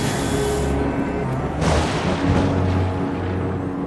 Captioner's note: thunderclap